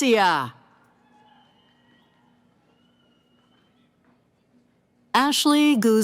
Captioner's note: cheering